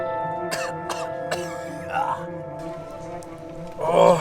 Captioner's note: coughing